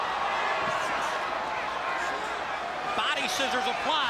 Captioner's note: crowd chatter